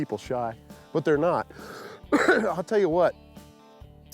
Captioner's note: coughs